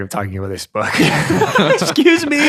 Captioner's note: all laughing